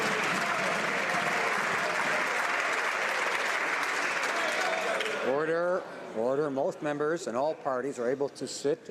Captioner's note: some Applause